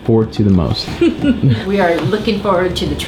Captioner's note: laughs